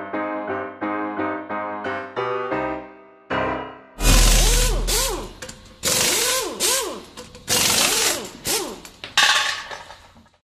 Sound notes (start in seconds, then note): 4.0 drilling